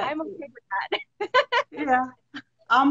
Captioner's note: laughs